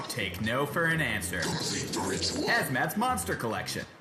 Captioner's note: in a demonic voice